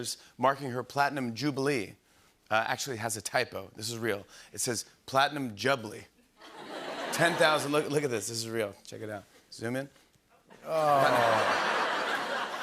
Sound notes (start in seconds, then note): 6.4 laughter; 10.5 laughter